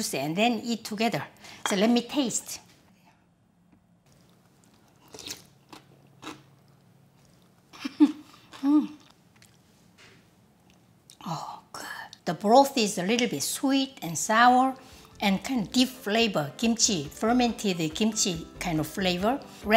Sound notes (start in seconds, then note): 4.1 slurp and crispy chew sound; 7.7 laugh